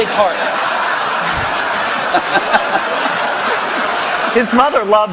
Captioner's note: laughter